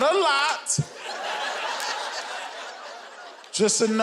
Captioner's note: audience laughing